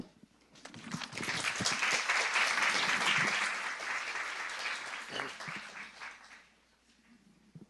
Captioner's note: clapping